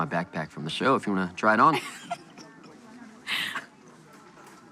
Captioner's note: laughs